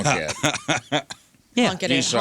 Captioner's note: laughing